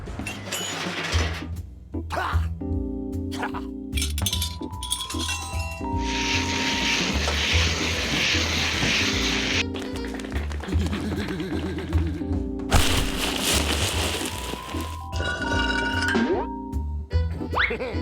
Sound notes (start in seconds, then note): 3.3 coughs; 3.3 scoffs; 10.5 giggles